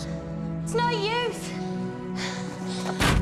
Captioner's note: gasps